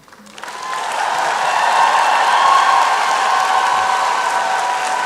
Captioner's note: applause and cheering